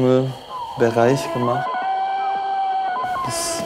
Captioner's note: jungle noises